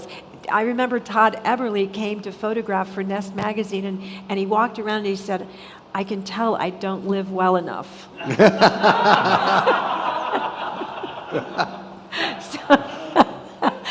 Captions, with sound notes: I remember Todd Everly came to photograph for "Nest Magazine" and he walked around and he said, "I can tell I don't live well enough." (all laughing)